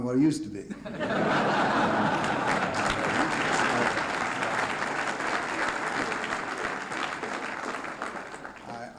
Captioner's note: laughter, applause